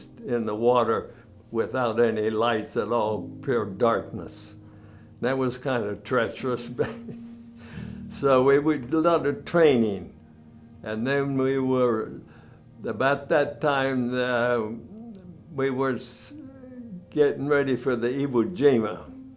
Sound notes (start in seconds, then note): 6.8 laughs